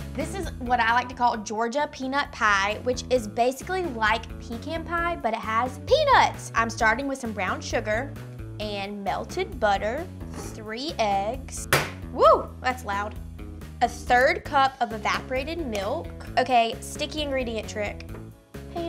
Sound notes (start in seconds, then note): 11.6 egg thumping